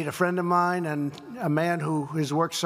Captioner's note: none